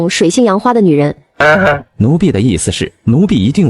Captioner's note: coughs